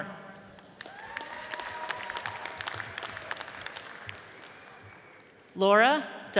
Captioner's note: audience cheers and applauds